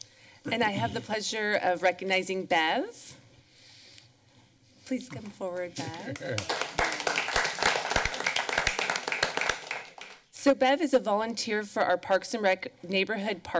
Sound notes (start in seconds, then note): 5.8 chuckles; 6.1 applause